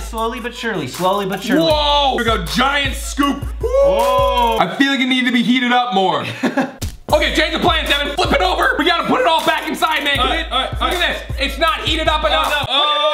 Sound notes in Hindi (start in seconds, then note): 6.2 हंसता है; 12.6 जोर से चिल्लाते और चीखते हैं